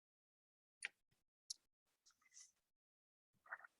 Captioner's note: mouse clicks